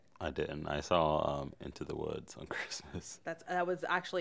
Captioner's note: chuckles